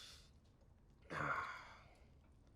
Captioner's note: grunts